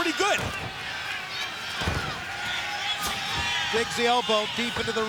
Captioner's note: elbows thudding